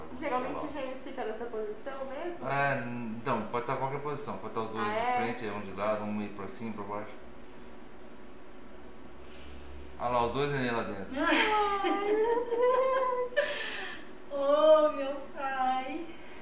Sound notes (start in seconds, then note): 11.2 laughs